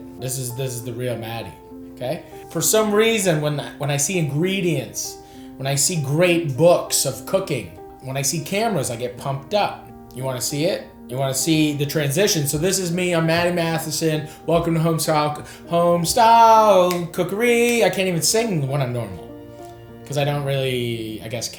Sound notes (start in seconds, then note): 16.8 fingers snapping